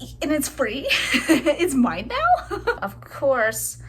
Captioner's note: laugh